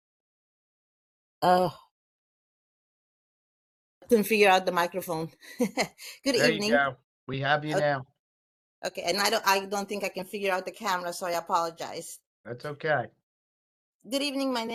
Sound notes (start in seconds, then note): 6.2 laughs